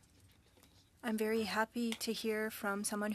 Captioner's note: speaking French